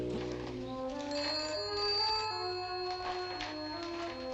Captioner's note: phone ringing